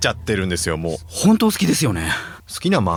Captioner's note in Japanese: 鼻息